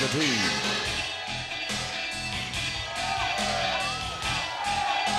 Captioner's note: laugh